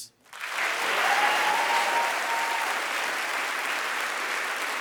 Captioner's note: audience applauding